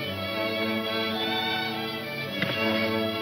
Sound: slow instrumental music; thud

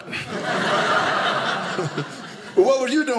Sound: audience laughing

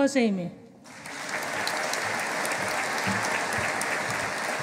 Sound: audience applauding

